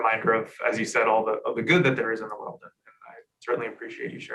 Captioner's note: murmurs